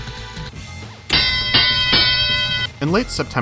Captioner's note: boxing bell rings